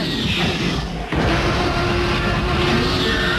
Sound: sfx: T-Rex Growl

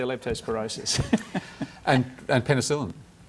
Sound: laughs

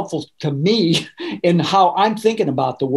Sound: laughing

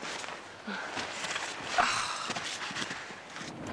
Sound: grunts

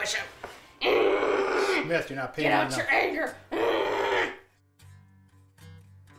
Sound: grunting

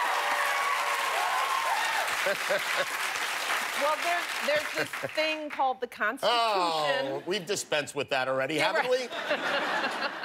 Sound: cheers and applause

